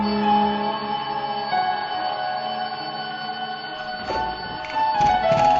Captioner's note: alarm clock ringing